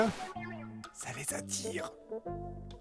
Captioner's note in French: chuchotant